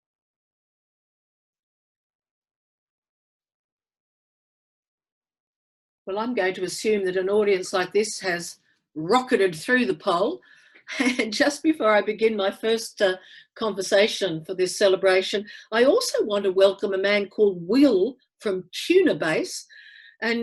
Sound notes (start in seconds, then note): 11.2 laughing